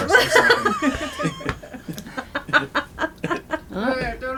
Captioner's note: laughter